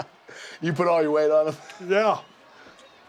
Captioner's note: laugh